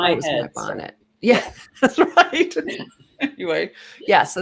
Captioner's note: laughing